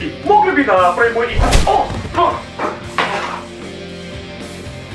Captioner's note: slap!; falling and moaning